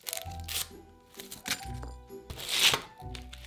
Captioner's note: onion paper rustling